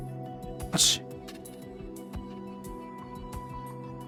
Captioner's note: sigh